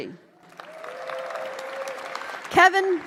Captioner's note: applause